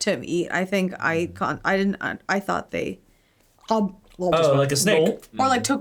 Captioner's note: mimicking eating